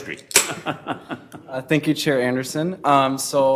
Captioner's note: laughing